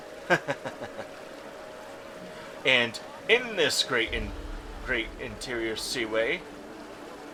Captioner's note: laughs